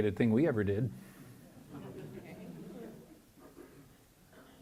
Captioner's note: chuckling